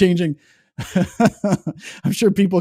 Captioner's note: laughs